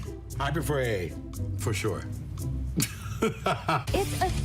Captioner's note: laughs